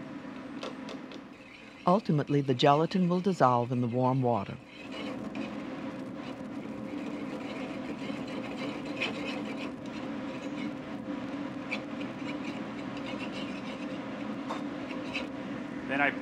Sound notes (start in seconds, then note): 4.6 spoon scrapes